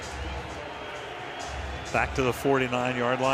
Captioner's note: pa announcement